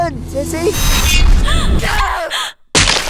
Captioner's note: gasp